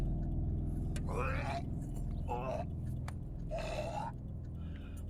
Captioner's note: Milton retches